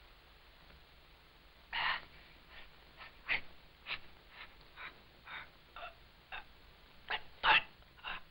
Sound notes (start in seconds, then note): 2.9 gasping